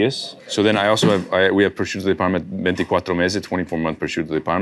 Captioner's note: speaks Italian